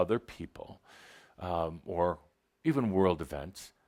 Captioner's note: none